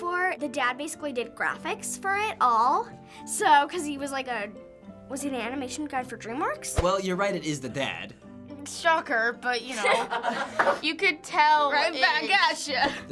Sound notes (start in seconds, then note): 9.7 laughter